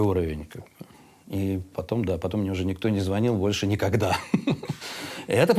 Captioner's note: laughs